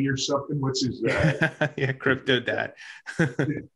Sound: chuckles

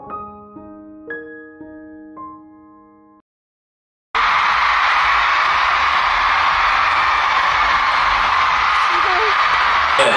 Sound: applause

